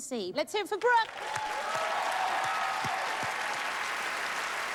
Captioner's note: cheers and applause